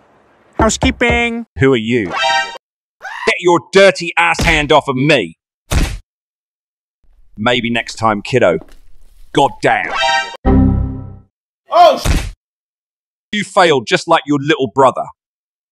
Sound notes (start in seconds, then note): 0.6 knocks